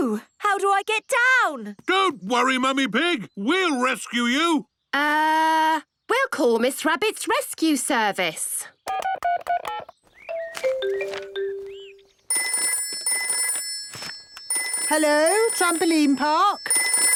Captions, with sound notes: - Oh. How do I get down? - Don't worry, Mummy Pig! We'll rescue you! - Er.... We'll call Miss Rabbit's Rescue Service! (phone beeping) (phone ringing) - Hello, Trampoline Park.